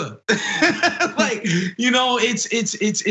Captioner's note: laugh